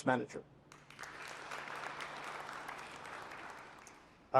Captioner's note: applause